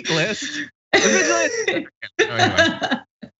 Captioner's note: laugh